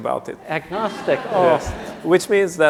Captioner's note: laughter